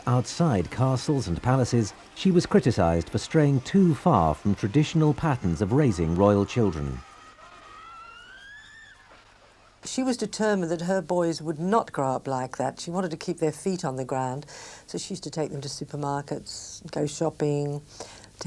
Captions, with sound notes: outside castles and palaces, she was criticized for straying too far from traditional patterns of raising royal children. (people screaming) - She was determined that her boys would not grow up like that. She wanted to keep their feet on the ground. So, she used to take them to supermarkets, go shopping,